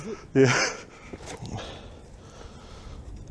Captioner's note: grunts in filipino